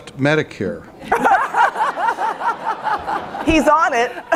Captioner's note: laughter